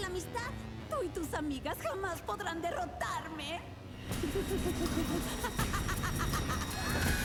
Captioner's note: laughter; scream